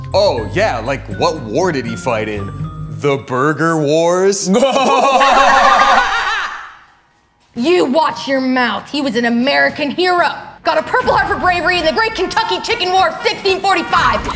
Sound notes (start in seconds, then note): 4.5 laughs; 6.5 waitress mimics laughing